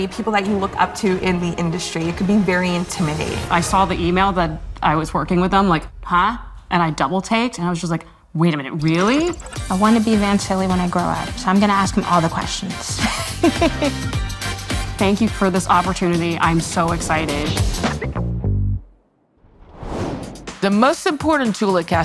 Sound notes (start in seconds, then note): 18.1 upbeat music; 19.4 air whooshes